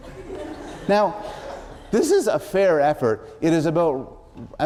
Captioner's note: laughter